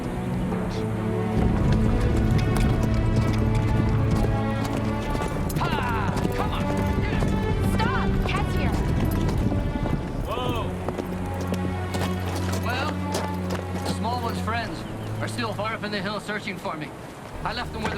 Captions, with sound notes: (wagon moving) (horse galloping) - Hi-ya, come on! - Stop. Catch him. - Whoa. Well, the small one's friends are still far up in the hills searching for me.